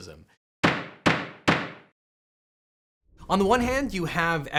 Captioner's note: gavel bangs